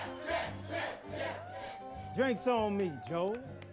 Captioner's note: cheering